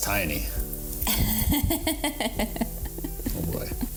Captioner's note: laughs